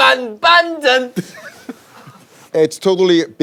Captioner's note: forced surprise